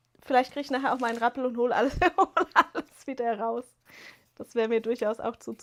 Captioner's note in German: gelächter